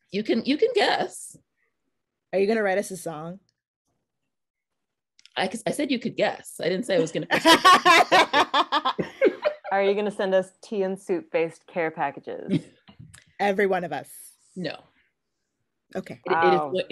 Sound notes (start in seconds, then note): 7.1 laughing